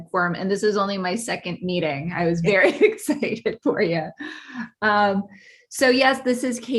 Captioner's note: laughing